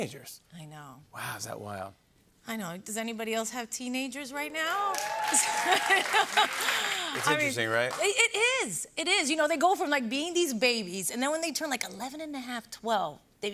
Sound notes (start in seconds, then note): 4.8 cheers and applause; 5.4 laughs